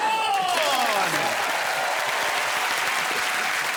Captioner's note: cheers and applause